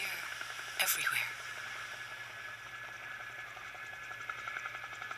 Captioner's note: helicopter blades whirring